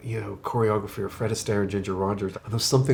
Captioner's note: none